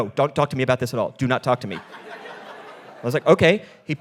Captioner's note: audience laughing